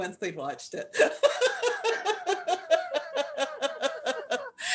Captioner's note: laughter